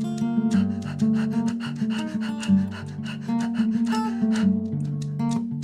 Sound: heavy, rhythmic breathing

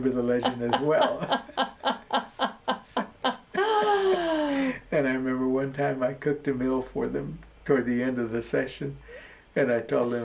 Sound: laughter

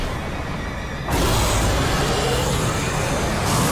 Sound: roaring

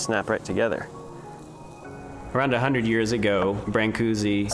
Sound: voice-over

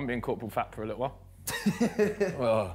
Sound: Simon laughs

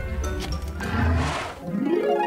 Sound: whimsical music; dinosaur grunts; harp strumming

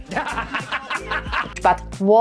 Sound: laughing

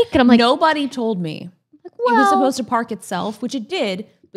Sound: none

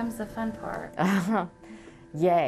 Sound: laughs

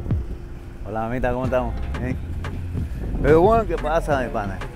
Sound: in Spanish

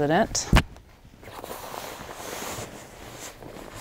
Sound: sheets rustling

